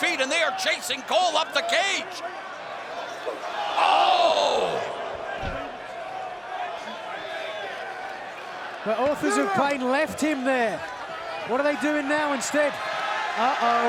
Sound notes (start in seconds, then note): 4.3 fans chattering